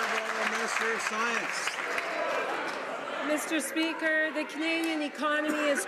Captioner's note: some Applause